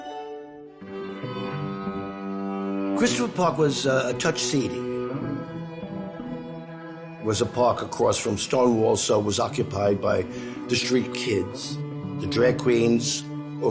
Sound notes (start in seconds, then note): none